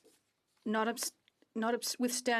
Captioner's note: speaking French